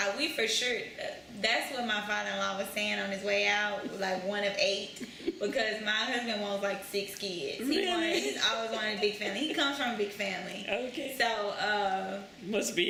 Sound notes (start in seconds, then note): 7.8 laughs